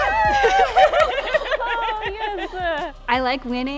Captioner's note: women cheer